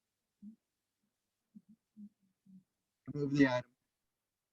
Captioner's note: faint speaking off mic